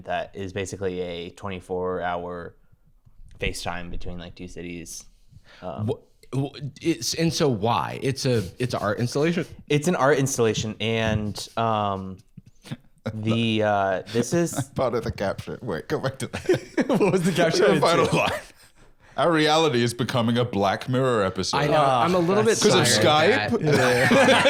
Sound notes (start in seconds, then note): 16.2 laughs